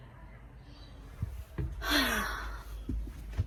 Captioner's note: heavy, tired sigh